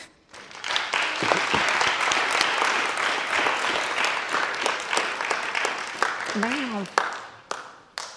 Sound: audience applause

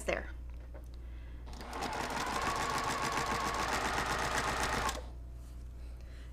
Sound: sewing machine resounding

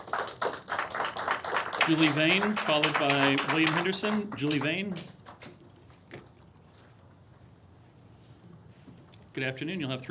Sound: applause

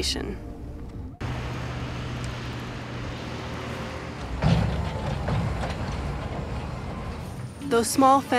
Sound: truck noises

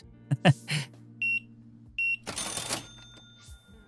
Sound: laughing; beeping

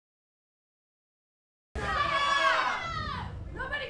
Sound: crowd yelling angrily

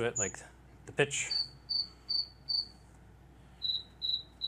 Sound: chirps

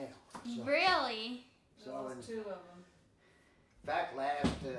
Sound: none

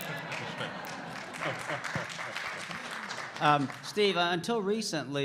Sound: applause

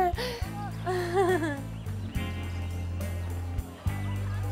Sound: Sabrina chuckles

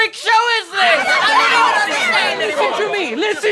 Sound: townspeople yelling

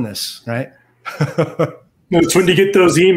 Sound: laughs

